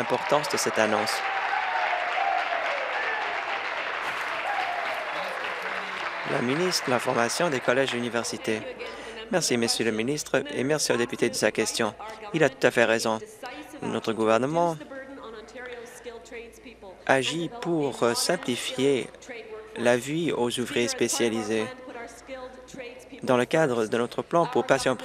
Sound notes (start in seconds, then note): 4.4 applause; 5.1 cheers